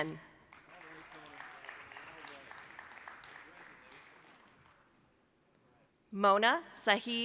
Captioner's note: applause